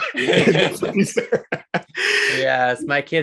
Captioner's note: both giggling